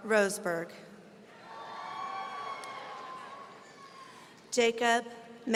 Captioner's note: audience cheering